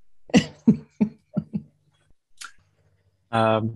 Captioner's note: laughs